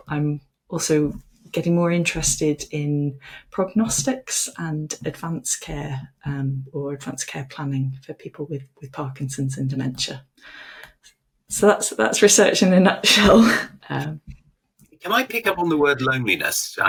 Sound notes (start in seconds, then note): 15.1 chuckles